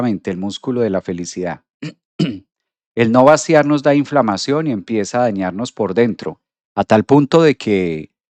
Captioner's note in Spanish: carraspeo